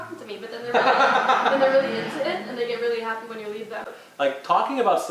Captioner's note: laughter